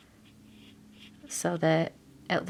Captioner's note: marker scraping